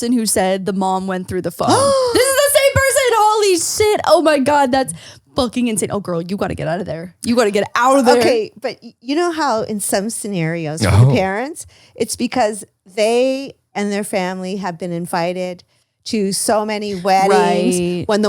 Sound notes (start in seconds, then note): 1.7 gasps